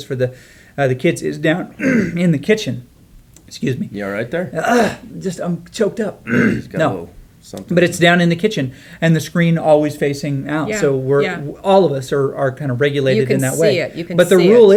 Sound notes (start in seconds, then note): 1.8 clears throat; 6.2 clears throat